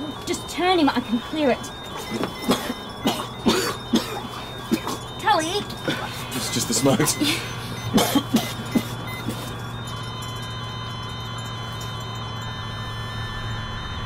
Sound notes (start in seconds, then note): 3.6 Tully coughing; 8.4 coughing; 10.9 monitors beeping